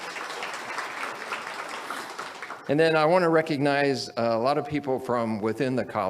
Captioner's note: audience applauds